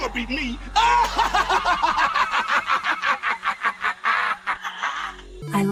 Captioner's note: laughing